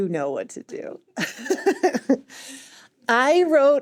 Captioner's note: laughs